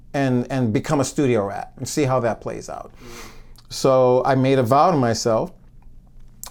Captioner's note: none